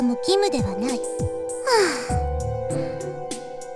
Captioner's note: sigh